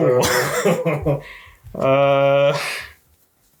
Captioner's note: laughs